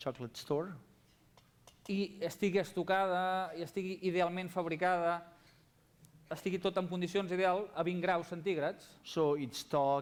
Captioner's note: non-english speech